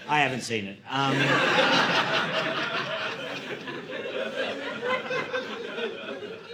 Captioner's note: audience laughing